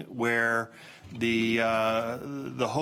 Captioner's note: none